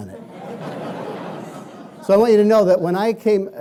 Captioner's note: laughing